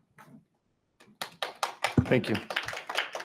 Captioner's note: people clapping